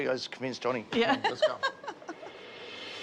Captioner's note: laughs